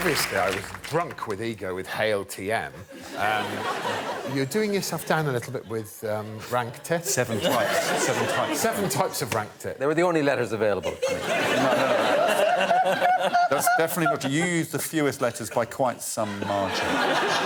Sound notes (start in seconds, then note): 13.6 laughter